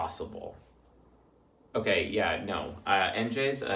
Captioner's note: normal Voice